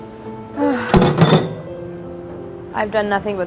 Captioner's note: sighs